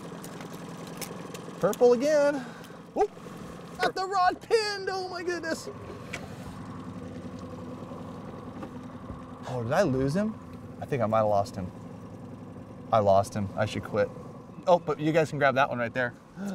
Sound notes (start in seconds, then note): 3.3 boat engine idling; 6.3 boat engine idling